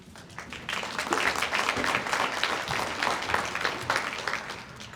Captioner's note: audience applauds